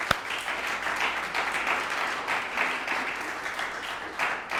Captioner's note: applause